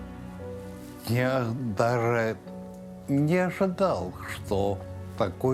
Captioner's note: speaking Russian